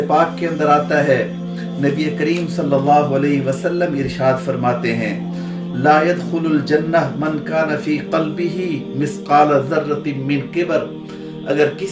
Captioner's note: Arabic